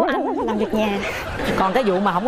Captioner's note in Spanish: risas